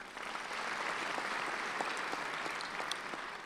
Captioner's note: clapping